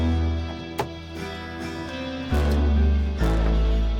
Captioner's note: door opens